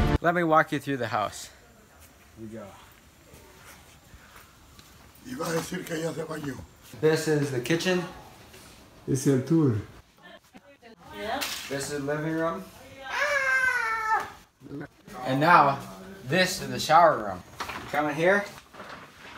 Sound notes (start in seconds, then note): 5.7 talking in Spanish